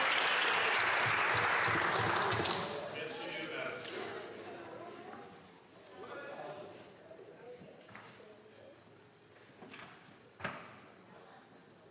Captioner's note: some Applause